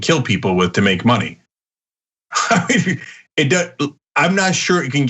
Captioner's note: laugh